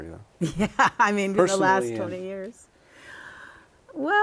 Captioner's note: laughter